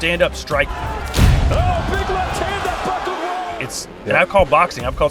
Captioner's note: announcer shouting; dramatic punch thudding